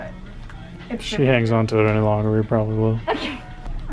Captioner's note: laughs